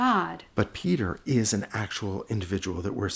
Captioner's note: voiceover